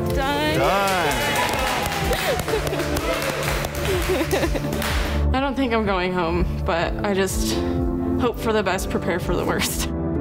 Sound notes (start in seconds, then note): 1.9 contestants applaud